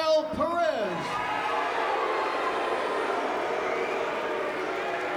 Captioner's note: fans cheering